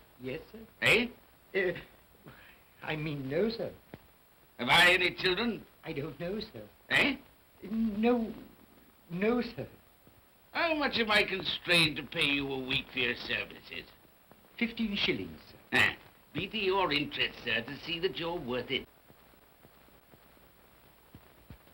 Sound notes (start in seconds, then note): 1.5 Cratchit stammers